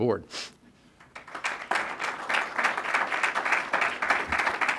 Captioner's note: applause